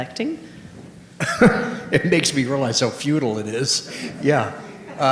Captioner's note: laughing